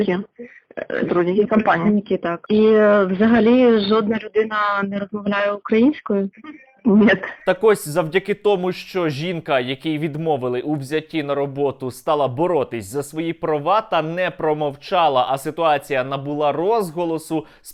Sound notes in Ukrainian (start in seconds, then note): 6.9 сміх